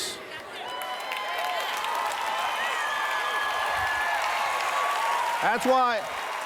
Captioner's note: cheers